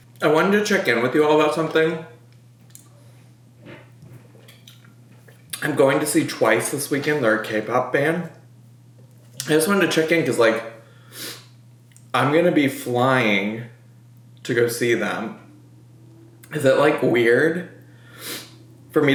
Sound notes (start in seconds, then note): 11.1 sniffs; 18.0 sniffs